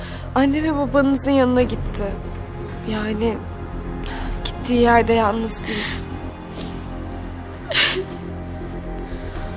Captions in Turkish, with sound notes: Anne ve babanızın yanına gitti. Yani, gittiği yerde yalnız değil. [AĞLAMA SESİ]